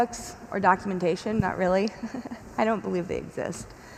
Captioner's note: chuckles